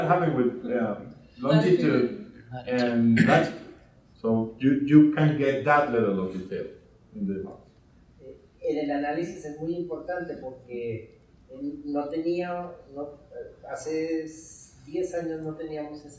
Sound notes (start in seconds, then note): 2.7 coughing drowns out speaking; 8.7 speaking in Spanish